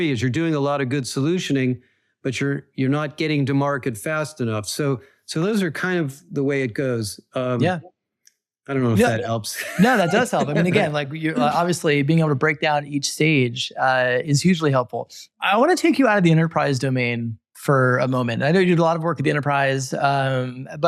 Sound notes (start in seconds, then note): 8.9 laughs